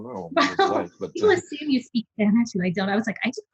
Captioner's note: laughing